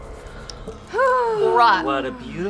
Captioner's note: sighing